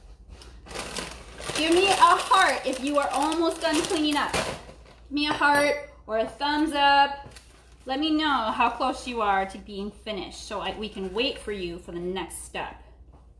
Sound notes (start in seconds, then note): none